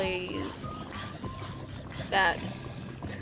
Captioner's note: Husk's Burning